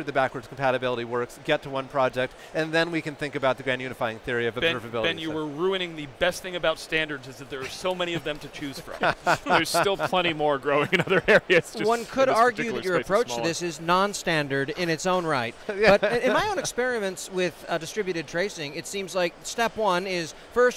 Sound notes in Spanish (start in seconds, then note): 8.7 todos riendo; 10.7 risas; 15.7 riéndose